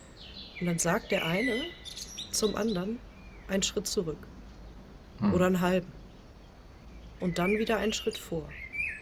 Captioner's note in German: räuspern